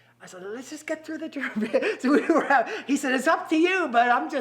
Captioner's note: laughs